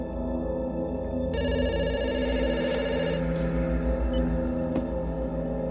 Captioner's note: phone rings